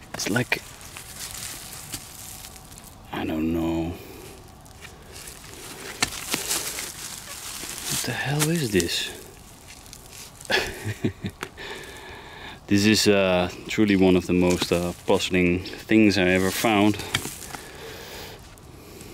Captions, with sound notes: It's like, I don't know. What the hell is this? (laughs) This is truly one of the most puzzling things I've ever found.